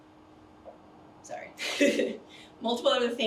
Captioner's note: chuckles